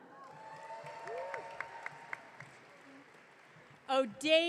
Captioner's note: audience cheering